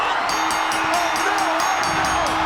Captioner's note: bell rings